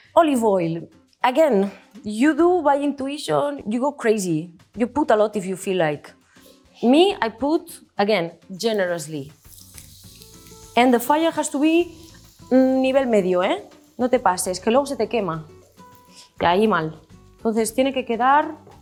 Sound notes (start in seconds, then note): 12.5 speaks Spanish